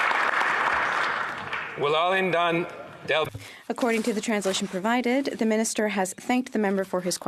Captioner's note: some Applause